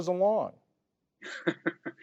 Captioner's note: laughter